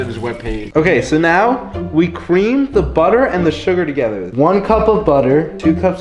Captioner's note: none